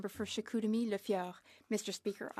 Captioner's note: speaking French